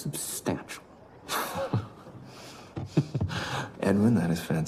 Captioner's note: laughs